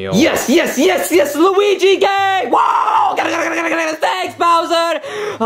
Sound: yelling, exclaiming

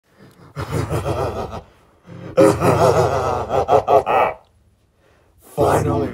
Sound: evil laughter

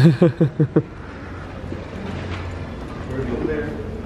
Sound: laughs

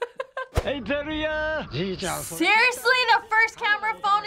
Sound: laughs; man speaking Japanese

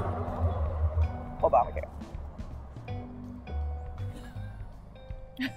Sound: laughing

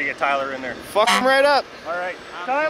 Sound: honk

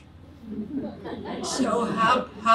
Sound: audience laughs

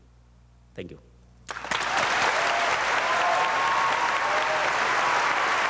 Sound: audience applauding

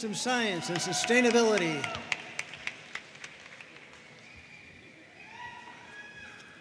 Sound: audience cheering and applauding

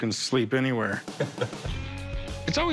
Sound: laughs

